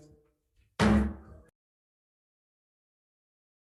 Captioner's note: gavel thud